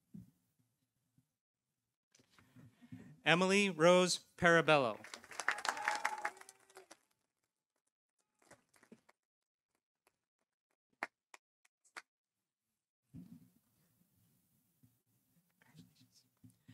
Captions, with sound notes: Emily Rose Parabelo. -(audience cheering) -(audience applauding)